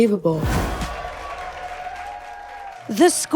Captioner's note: people cheering